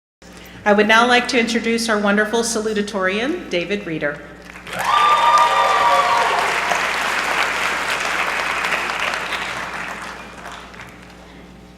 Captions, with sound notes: I would now like to introduce our wonderful salutatorian David Reader. (applause)